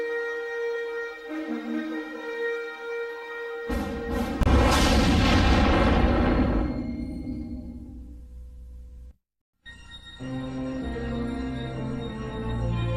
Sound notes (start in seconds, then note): 3.6 dramatic sounds; 9.7 analog synthesizer music plays